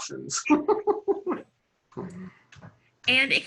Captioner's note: laughing